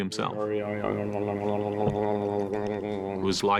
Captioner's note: muttering